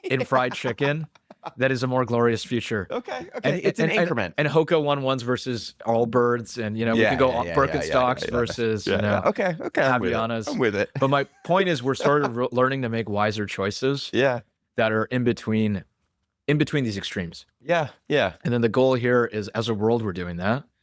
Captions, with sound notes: ... in fried chicken that is a more glorious future. Okay. Okay, okay. It's an increment. And, and, and Hoka One One's versus Allbirds and, you know- Yeah. Yeah, yeah, yeah, ... you can go on Birkenstocks versus, you know- Yeah. Okay. Okay. I'm with it. Avianas. I'm with it. [laughs] But my point is we're sort of re- learning to make wiser choices- ... that are in between, in between these extremes. Yeah. Yeah. And then the goal here is, as a world, we're doing that.